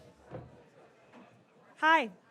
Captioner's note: audience chattering